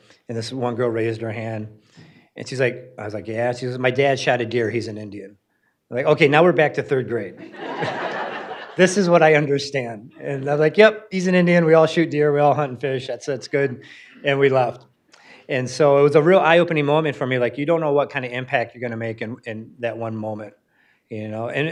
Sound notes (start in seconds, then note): 7.4 audience laughing